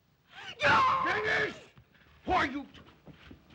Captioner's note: Zaroff shouts command